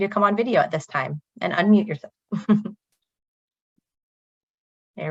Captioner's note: chuckles